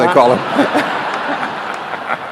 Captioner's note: laughter